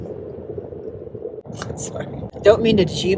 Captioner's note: laughs